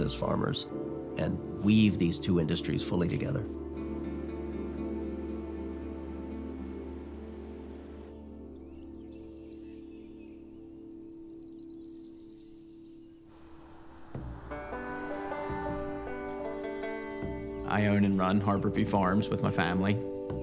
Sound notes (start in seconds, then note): 9.3 birds singing; 14.4 banjo music